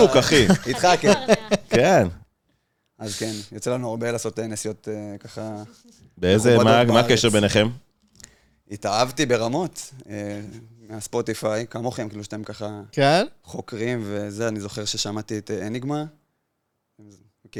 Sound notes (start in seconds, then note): 0.0 laughs